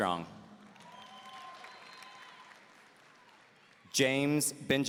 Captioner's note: audience cheering